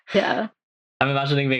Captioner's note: laughs